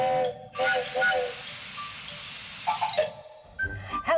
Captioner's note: train whistle blowing, steam hissing